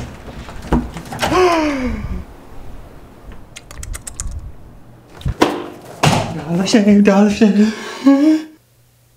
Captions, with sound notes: (excited gasp) Dollar shave, dollar shave